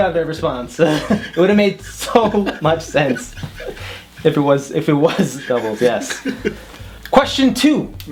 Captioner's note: both laughing